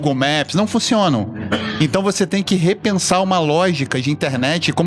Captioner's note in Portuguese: limpando a garganta